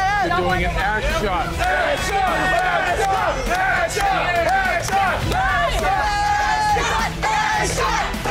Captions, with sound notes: - You're doing an ass shot. (crowd chanting)